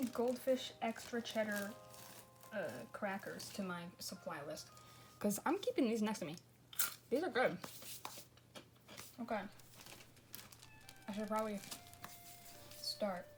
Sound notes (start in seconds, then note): 6.0 crunches goldfish